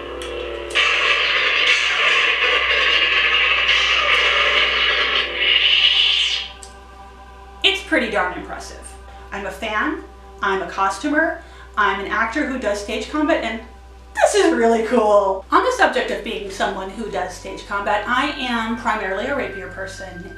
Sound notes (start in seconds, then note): 0.1 crackling sound effect; 5.2 shutdown sound effect